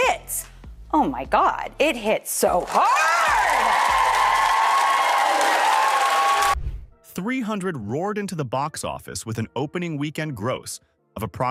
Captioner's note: audience cheering